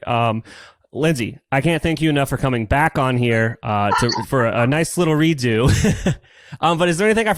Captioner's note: laughs